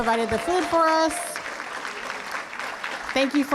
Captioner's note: applause